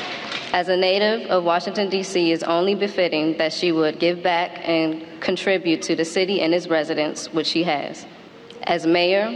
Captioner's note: applause